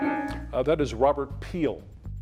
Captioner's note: timer beeping